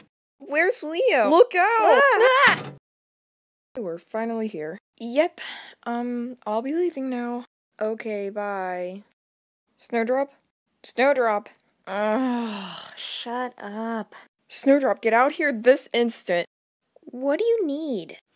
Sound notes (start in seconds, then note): 1.6 they both exclaim; 2.4 thud